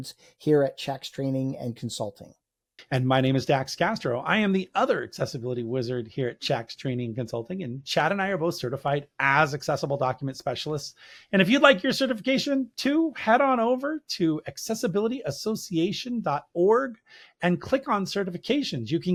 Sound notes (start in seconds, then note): none